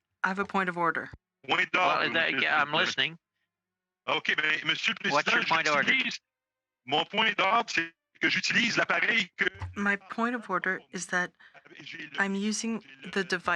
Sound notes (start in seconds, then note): 2.2 speaking French; 12.8 speaking French